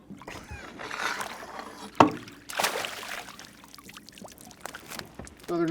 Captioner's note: fish splashing; chuckling